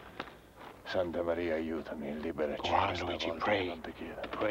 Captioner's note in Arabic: صوت منطوق باللغة الإيطالية